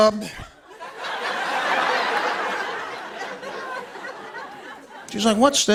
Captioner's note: laughter